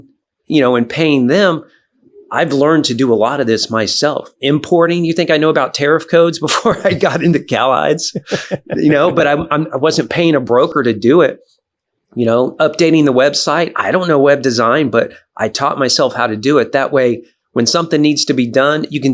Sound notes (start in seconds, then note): 8.0 both laughing